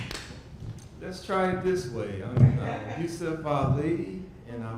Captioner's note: audience laughs